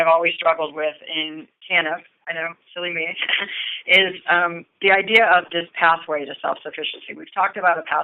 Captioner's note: chuckle